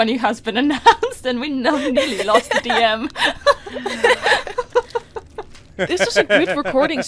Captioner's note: laughter; sighs